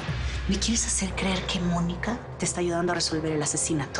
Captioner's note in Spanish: En voz baja